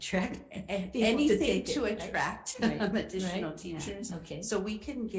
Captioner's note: chuckle